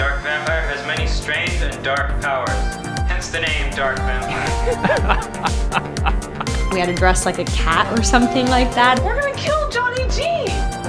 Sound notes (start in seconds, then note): 3.8 Kalvin chuckles; 5.4 upbeat techno music